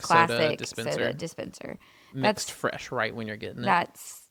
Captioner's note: none